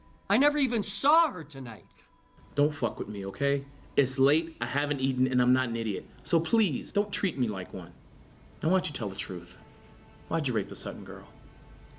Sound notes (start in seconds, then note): none